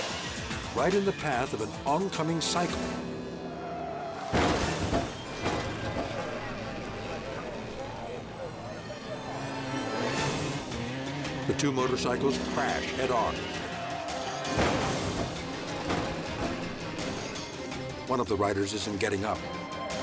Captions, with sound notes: right in the path of an oncoming cycle. (crash clattering) (light dramatic music) The two motorcycles crash head on. One of the riders isn't getting up.